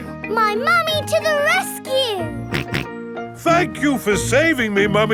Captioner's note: snorting